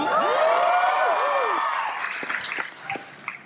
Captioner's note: crowd woos and cheers